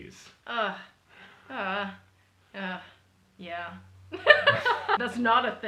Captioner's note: laughter